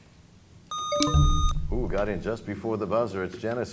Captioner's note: buzzer sound; bell chimes